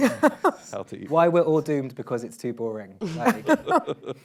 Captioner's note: laughs